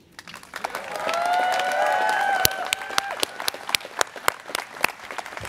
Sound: students cheering

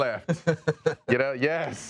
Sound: laughing

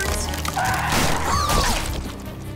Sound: gasping

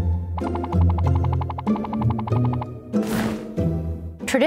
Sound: dainty music; elements popping; tablecloth whooshing

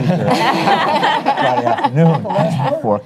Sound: audience laughs

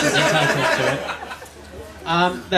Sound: laughter

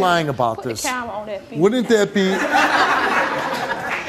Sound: audience laughs

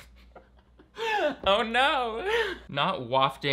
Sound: laughing

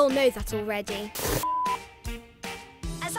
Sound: television beeps

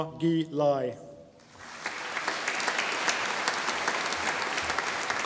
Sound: audience applauding

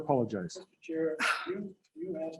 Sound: frustrated sigh

